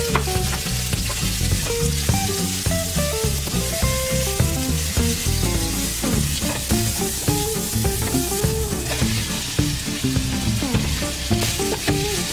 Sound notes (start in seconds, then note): 2.0 stir-fried sound